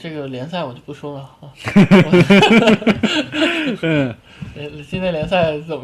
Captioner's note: laugh